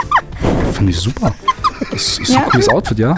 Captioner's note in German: Kichern